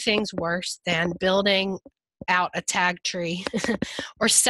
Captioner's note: chuckles